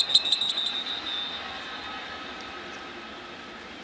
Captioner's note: whistles